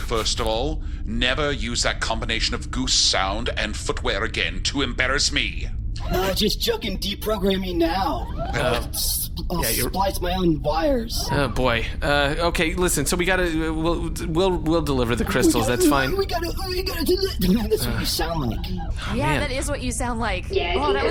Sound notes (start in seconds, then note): 13.5 stammering; 15.9 doing a rude imitation of Pleck’s voice